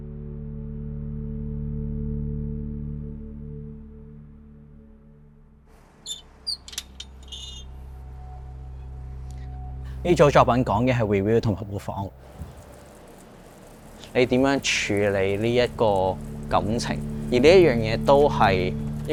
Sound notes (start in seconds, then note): 10.2 Cantonese